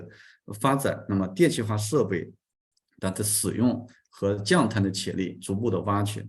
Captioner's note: continues to speak in Chinese